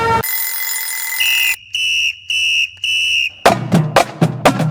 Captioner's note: clocking ringing; whistle blowing; drums beating